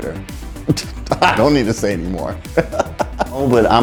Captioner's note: laughing